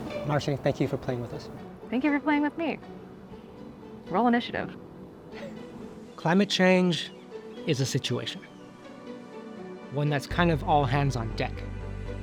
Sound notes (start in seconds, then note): 5.3 laughs